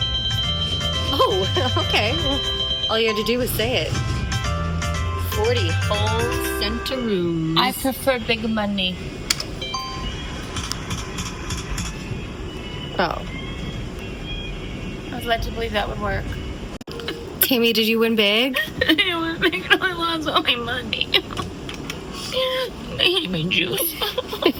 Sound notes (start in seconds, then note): 0.0 hoots; 11.8 hoots; 18.4 sobs